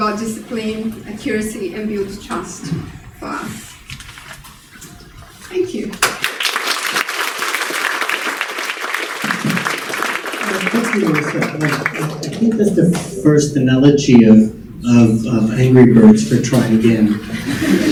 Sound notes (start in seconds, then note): 6.0 congregation applauding